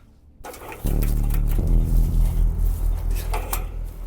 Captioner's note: metal rattling